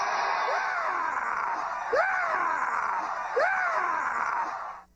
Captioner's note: howard dean scream sound effect